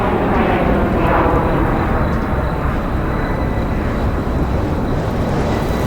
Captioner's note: airplane engine whirring; cricket chirping